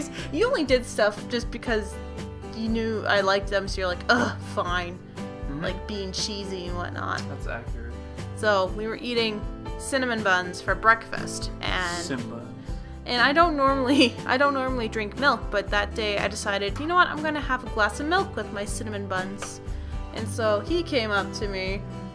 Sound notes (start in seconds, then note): none